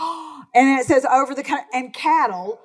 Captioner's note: gasps